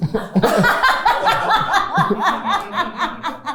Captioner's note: everyone laughs